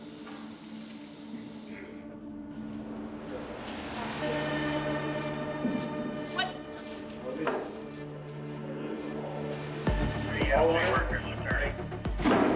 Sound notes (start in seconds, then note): 0.1 tense music; 9.9 chatter